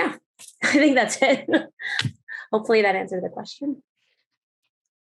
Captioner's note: chuckles